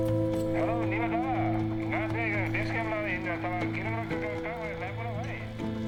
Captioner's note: speaking Sherpa